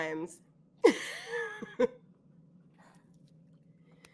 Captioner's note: all laughing